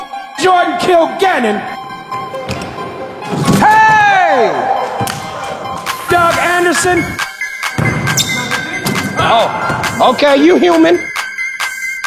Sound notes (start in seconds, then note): 2.8 dunk sound; 4.0 cheers; 9.0 dunk sound